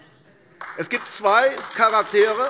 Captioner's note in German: Beifall AfD